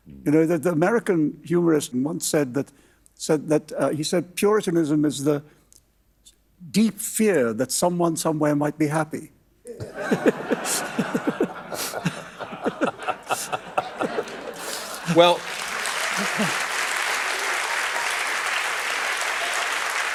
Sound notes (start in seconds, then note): 9.7 laughter; 12.0 applause